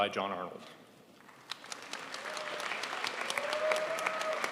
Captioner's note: crowd applauds